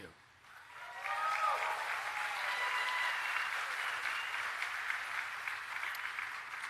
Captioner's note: applause